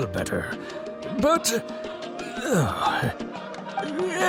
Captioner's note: sigh